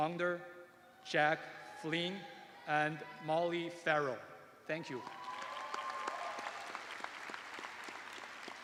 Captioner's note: cheers and applause